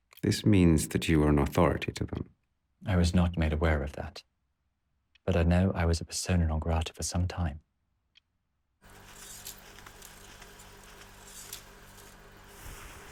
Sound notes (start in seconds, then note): 8.9 reels clicking